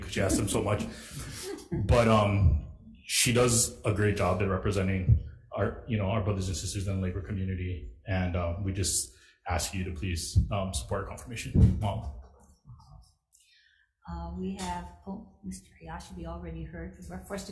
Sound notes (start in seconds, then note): 0.0 chuckling